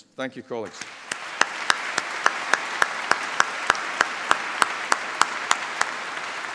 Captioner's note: applause